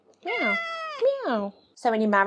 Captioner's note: cat meows